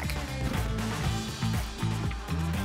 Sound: whoosh

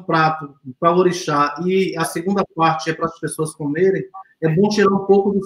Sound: speaks portuguese

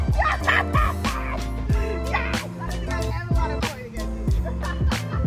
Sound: laughs

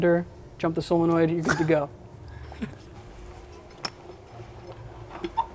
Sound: chuckles

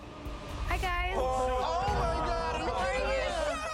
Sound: all reacting

